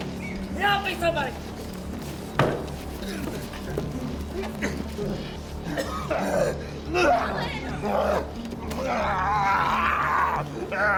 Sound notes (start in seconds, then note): 5.6 Malkam coughing and groaning